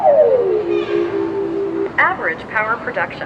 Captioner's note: steady tone